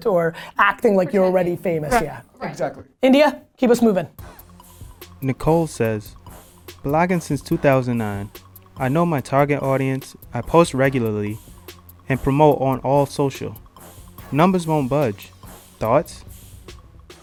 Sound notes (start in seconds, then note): 4.3 voiceover